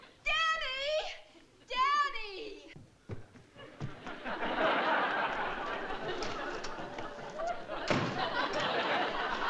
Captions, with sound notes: Danny! Danny! [LAUGHTER]